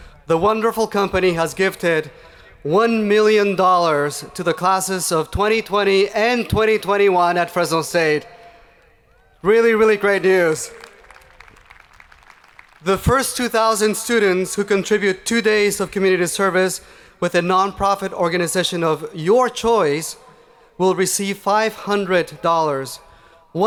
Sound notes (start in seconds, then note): 10.4 hands clapping